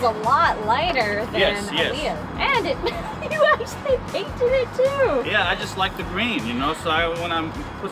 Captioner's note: laughs